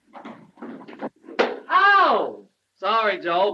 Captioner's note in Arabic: صفعة على اللوح